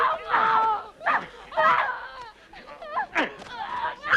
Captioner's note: captive grunting